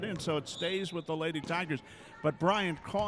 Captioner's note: referee whistling